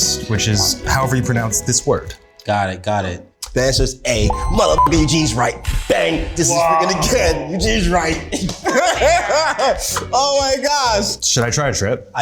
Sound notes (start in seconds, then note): 4.2 beeps; 8.1 laughs